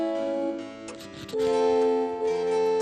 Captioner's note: quill scribbles